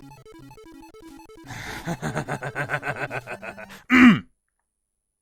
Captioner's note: villainous laughter